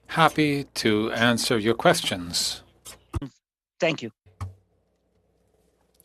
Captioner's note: speaking French